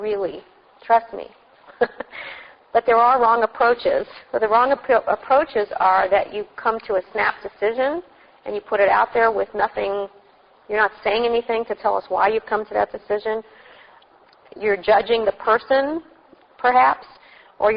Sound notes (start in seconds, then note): 1.7 laugh